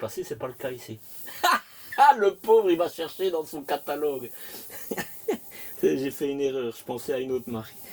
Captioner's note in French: rires